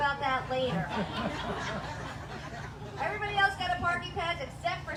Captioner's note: laughter